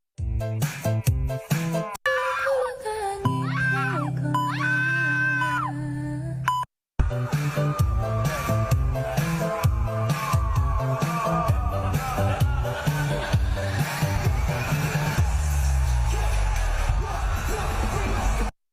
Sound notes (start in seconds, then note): 2.0 screaming